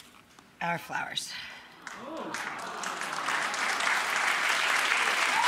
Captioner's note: audience awes and cheers